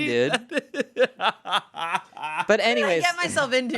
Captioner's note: laughs